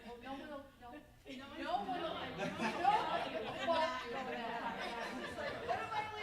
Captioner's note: group laughing loudly